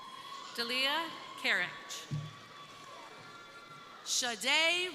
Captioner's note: crowd cheering